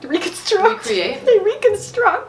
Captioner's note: laughs